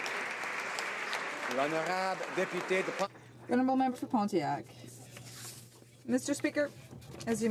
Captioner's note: some Applause